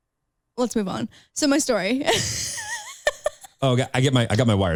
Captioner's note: laughs